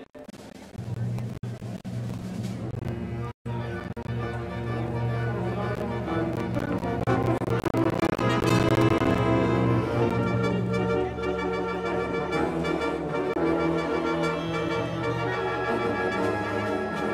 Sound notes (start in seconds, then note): 0.6 indistinct chatters; 0.6 upbeat music